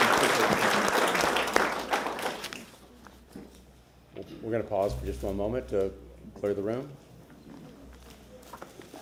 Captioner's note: applause